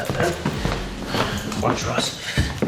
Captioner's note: footsteps clanging